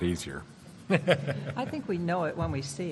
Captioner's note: laughs